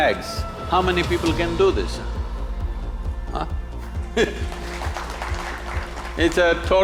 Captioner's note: applause/Laughs